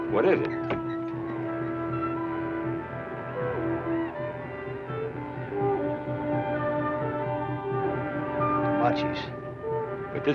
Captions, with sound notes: What is it? (distant war cry) - Comanches.